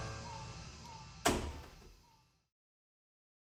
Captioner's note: door closes